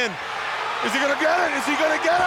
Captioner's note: audience cheers